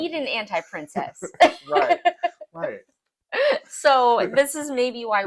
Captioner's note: laugh